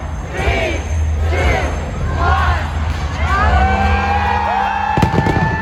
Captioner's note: cheers